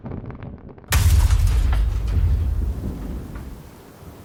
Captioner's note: thrusters sputtering out; thud